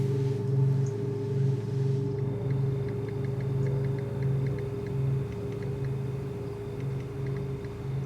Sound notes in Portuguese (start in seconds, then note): 2.0 Teclado